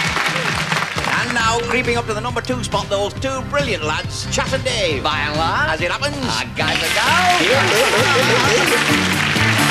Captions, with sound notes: ...and now creeping up to the number two spot, those two brilliant lads Chas 'n' Dave, by and large, as it happens, our guys and gals [Laughing]